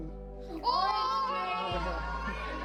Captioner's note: hollering